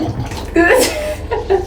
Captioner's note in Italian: risate